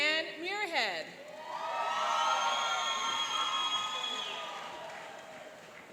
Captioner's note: cheering and applauding